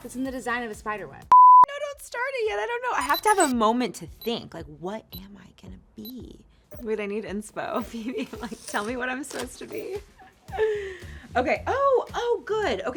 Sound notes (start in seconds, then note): 3.0 beep